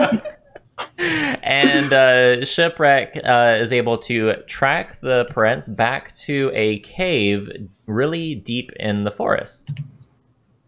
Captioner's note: laughter